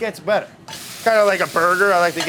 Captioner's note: pan sizzling